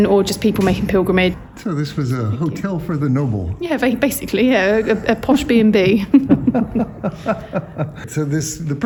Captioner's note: laughter